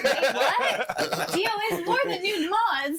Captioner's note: all laughing